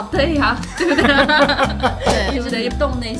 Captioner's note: laughter